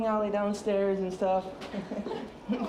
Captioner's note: chuckles